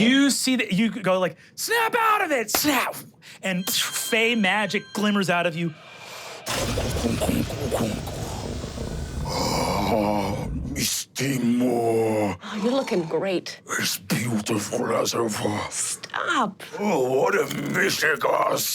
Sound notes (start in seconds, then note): 3.2 imitates fizzing; 5.6 whooshing; 7.0 deep growl